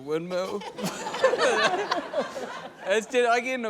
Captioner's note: laughter